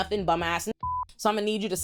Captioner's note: beep